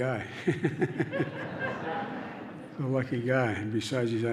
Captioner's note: laughter